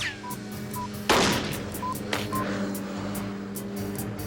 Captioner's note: bomb beeping; motor buzzing